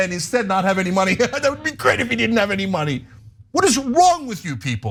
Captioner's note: laugh